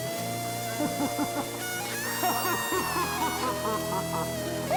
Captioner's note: laughs maniacally